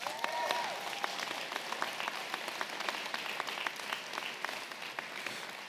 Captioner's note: audience clapping and cheering